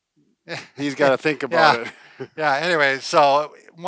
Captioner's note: laughs